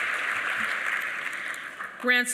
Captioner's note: applause